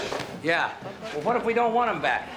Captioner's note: gunshot